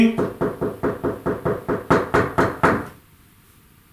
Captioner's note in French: Bruit de coups sur la table